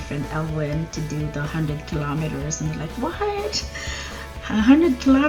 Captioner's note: laughs